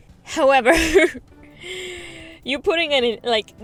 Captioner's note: laughs